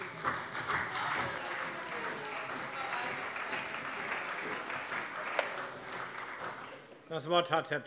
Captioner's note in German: Beifall bei dem BÜNDNIS 90/DIE GRÜNEN und der CDU